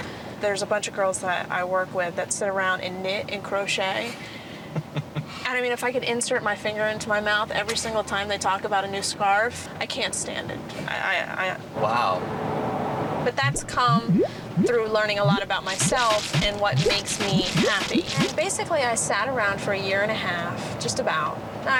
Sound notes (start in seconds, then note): 4.8 laughs